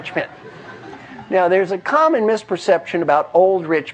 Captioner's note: laugh